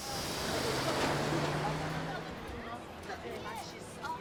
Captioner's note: indistinct chatter